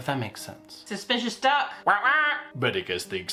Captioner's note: quacking